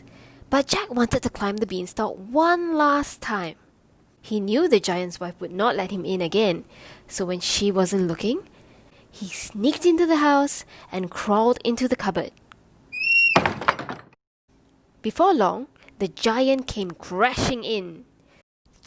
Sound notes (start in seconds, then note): 13.0 cupboard door swings shut